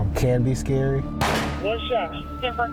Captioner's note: gun firing